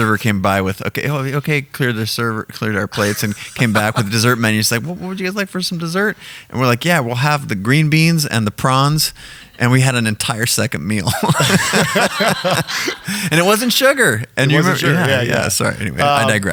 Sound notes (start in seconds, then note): 11.1 laughing